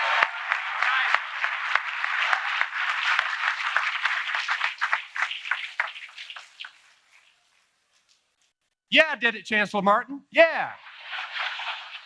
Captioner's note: applause